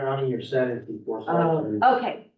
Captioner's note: muffled voice